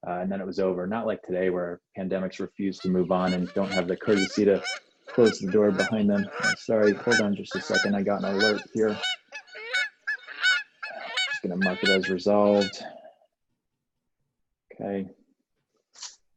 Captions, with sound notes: and then it was over. Not like today, where pandemics refuse to move on (goose honks), and don't have the courtesy to close the door behind them. I'm sorry. Hold on just a second. I've got an alert here. I'm just going to mark it as resolved. Okay.